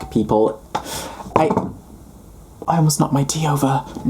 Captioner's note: cup rattling